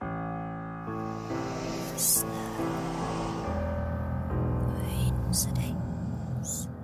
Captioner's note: gentle ominous music; voices whispering